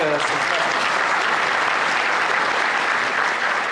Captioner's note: applause